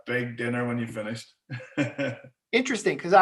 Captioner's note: laughing